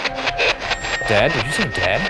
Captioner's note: spirit box chatting